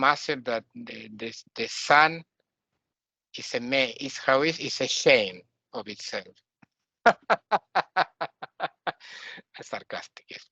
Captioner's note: laughing